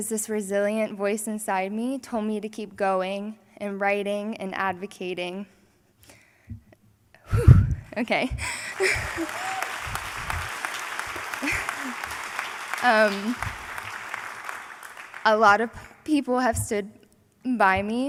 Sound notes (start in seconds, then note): 10.1 applause